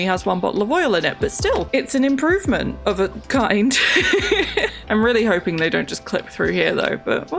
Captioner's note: laughs